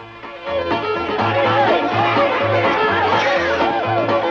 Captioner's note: cheerful music; people cheering